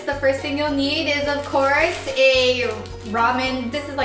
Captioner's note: rustling